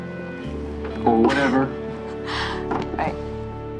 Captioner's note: chuckles